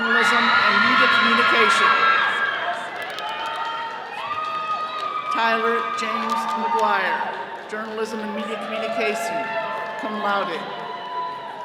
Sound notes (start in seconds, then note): 1.6 all cheering